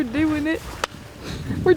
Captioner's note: hands slapping